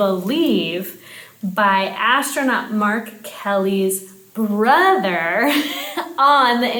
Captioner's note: chuckling